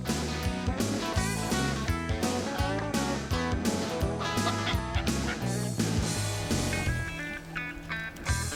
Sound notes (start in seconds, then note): 4.6 turkey calling; 5.7 upbeat music